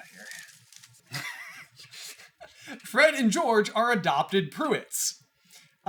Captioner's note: laughter